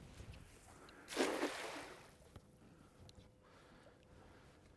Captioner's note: net splash